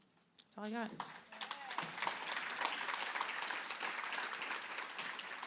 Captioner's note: applause